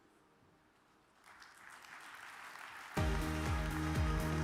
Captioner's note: audience claps; upbeat music